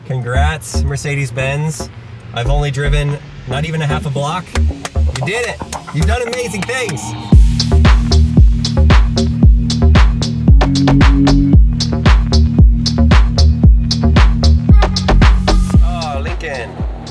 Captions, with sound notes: Congrats Mercedes-Benz, I've only driven, not even a half a block. (man clapping) You did it. You've done amazing things. (upbeat music) Ah, Lincoln.